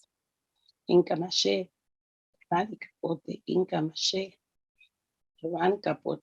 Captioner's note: speaking in foreign language